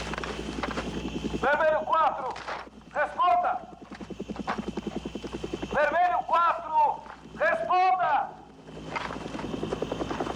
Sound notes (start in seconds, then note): 1.7 man On Loudspeaker